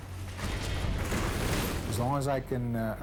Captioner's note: race car smashing